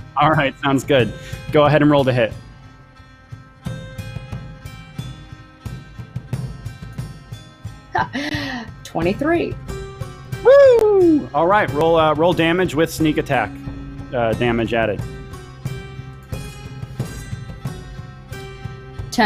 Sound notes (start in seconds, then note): 3.5 dramatic instrumental music; 7.9 laughs; 15.2 dramatic instrumental music continues